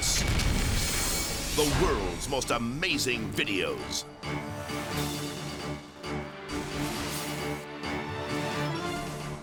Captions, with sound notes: (explosion booms) (graphics booming) "The World's Most Amazing Videos". (intense music)